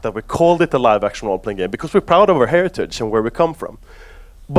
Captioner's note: none